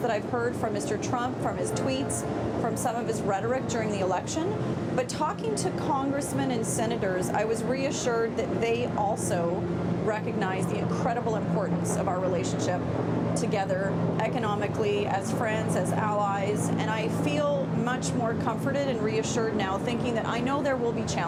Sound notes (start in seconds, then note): none